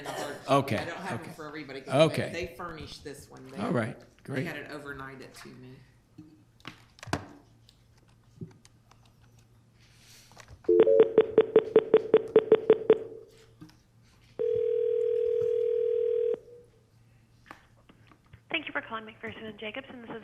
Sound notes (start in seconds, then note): 10.7 phone dialing; 14.4 phone ringing